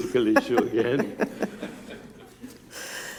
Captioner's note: chuckling